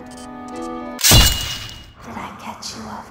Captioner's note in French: bruit de couteau